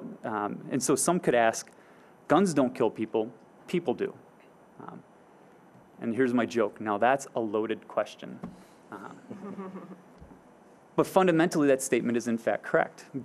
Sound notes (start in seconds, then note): 9.2 audience chuckling